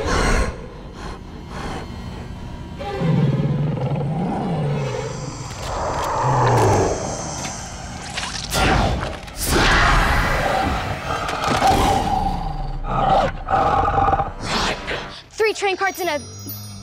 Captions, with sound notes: [growling] [hissing] [roaring] Run! Three train cards and a--